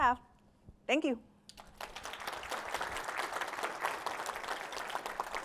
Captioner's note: applause